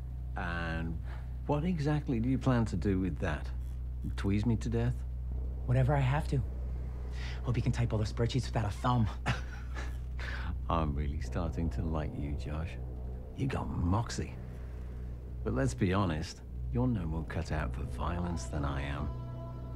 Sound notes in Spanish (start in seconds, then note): 9.0 Risas